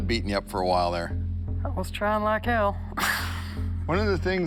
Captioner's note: laughs